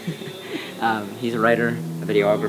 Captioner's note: chuckles